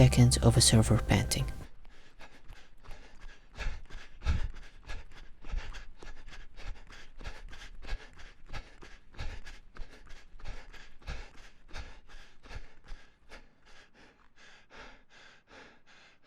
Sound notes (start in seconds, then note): 2.2 panting